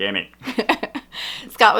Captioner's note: laughter